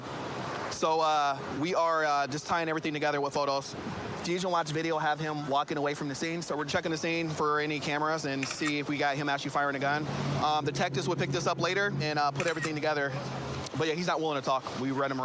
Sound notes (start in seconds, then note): 12.4 camera app clicks